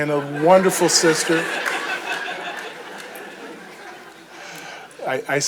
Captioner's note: audience chuckles